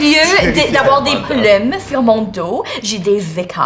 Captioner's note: none